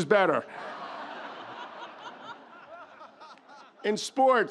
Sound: audience laughs

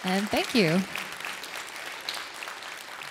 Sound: applause

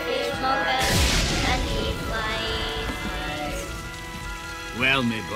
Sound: thunder crashes

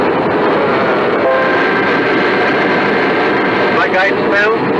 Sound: altitude Alert sound

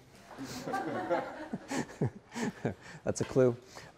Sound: audience laughing

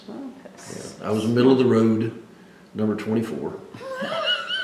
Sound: laughs

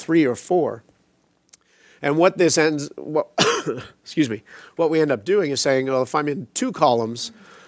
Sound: coughs

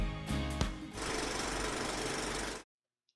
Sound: static

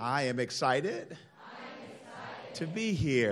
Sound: crowd

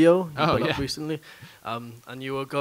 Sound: laughs

